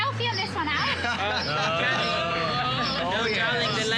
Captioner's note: laughter